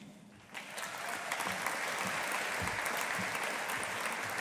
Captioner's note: audience applauding